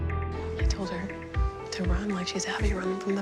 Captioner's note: none